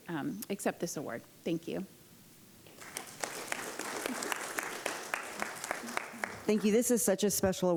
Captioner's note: applause